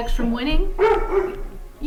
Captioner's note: barkbark